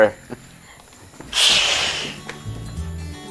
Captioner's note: zombie hissing